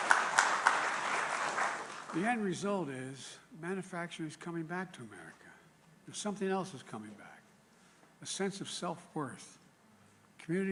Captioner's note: applause